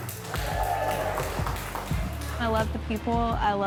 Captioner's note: attendees clapping and cheering